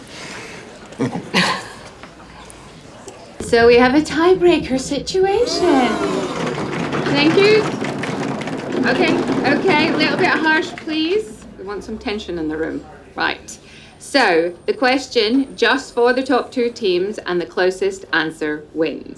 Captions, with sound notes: So we have a tie-breaker situation. (CROWD "OOHS") - Thank you. OK. OK. Little bit of hush, please. We want some tension in the room. Right. So the question just for the top two teams and the closest answer wins.